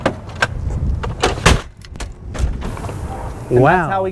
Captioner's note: stretcher clatters